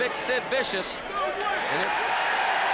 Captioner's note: crowd cheering